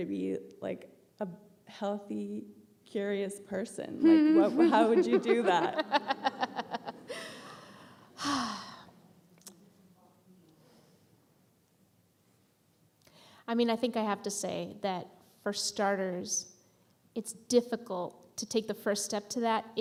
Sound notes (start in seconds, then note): 4.0 laughing